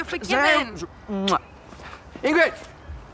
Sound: lips smooching

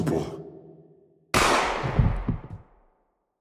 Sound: gunshot

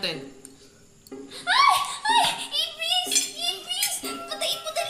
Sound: shrieks

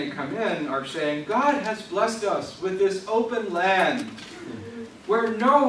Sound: laughs

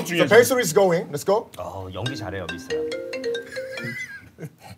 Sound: phone rings

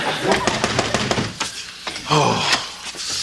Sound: knocking on door

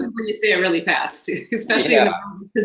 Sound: laughs

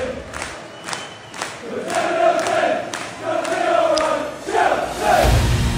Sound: stadium audience chanting

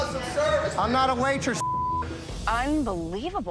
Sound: beep

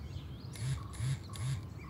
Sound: buzz

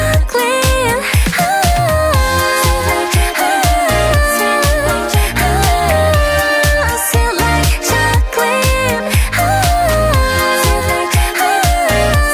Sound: ohhhh

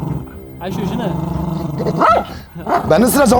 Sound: growling and barking sound

